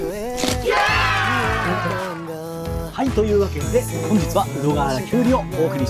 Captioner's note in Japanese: 叫び声